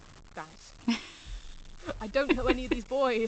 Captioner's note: laughs